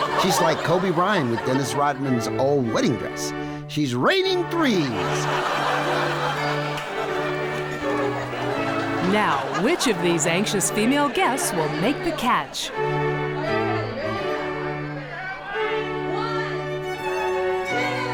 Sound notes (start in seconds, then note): 4.6 audience laughs